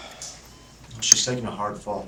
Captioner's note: sighing